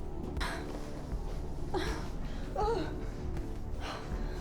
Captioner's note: scared Gasps